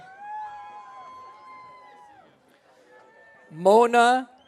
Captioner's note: audience cheering